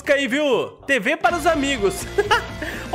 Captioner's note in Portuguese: risos